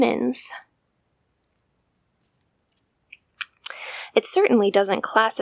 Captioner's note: silence